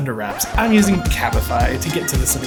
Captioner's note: record scratching